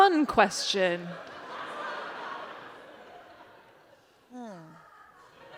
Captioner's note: laughter